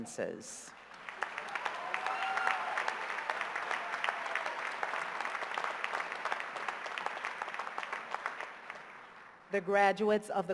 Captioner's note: cheers and applause